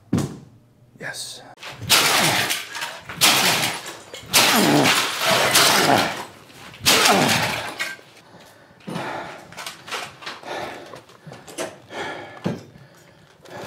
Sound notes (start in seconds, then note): 1.6 mark grunting; 8.1 exhausted breathing